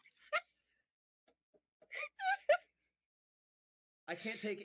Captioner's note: laughing